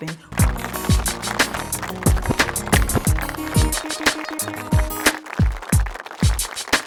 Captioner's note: upbeat music; audience claps